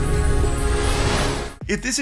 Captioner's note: air whooshing